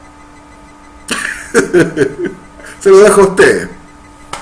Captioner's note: hahaha laughter